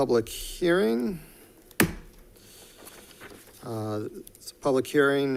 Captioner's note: gavel bangs